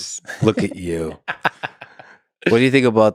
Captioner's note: Tim laughs